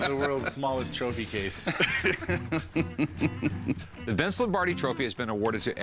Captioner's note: laughs